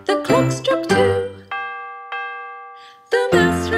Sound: clock chiming

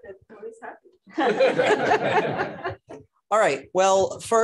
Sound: laughter

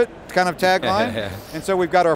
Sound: laughs

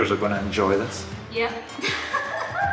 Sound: laughs

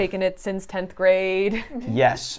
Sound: chuckles

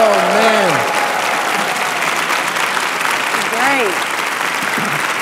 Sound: cheering

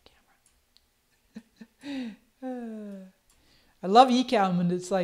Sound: laughs

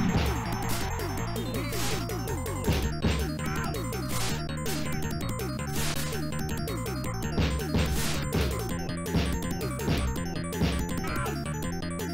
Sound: game sounds

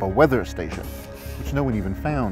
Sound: electronic buzzing

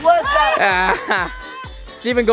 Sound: laughing

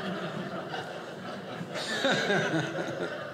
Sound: audience laughing

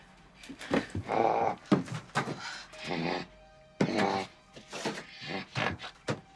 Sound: grunting

